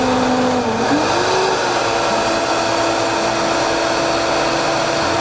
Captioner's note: blender whirring